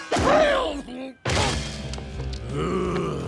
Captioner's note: grunting; groans